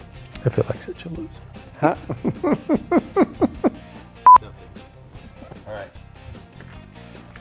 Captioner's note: laughter